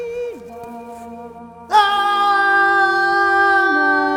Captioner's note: Jonathan screams as he falls